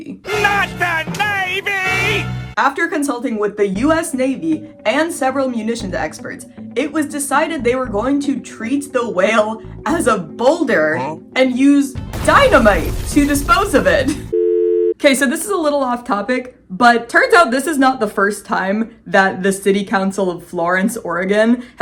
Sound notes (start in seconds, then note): 0.2 cool music begins; 12.0 explosion sound; 14.2 error tone